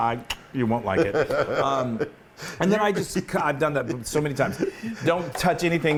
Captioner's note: laugh